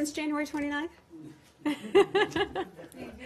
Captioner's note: laughter